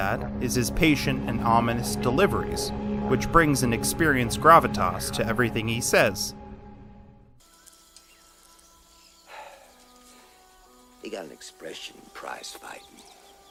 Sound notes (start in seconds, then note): 9.2 exhales